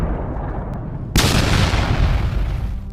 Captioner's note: explosion